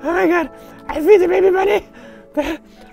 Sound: wheezing excitedly; wheezing excitedly

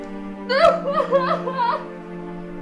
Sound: emma sobs loudly

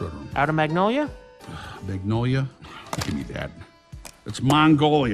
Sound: sighs

